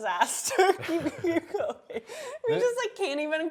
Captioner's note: both laughing